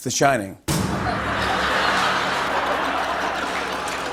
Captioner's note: laughter